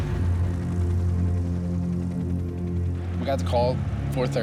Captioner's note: helicopter rotors thump